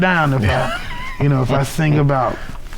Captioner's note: laughing